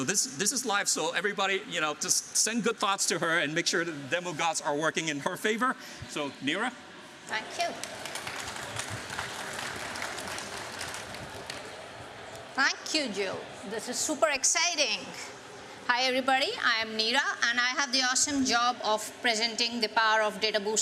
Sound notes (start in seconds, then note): 7.6 applause